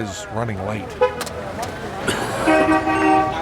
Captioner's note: horn honking